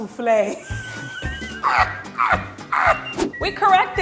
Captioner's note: laughing